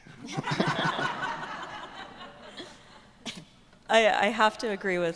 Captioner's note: audience laughing